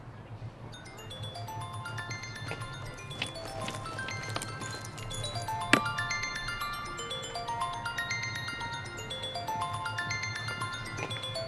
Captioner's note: mobile ringing